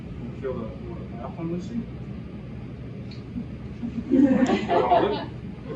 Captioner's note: laughs